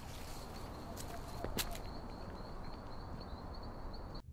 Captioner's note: bird hooting